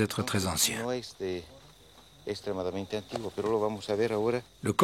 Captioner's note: Spanish spoken audio